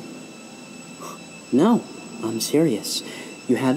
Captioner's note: Gunderson scoffs